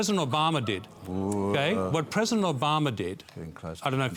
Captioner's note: groaning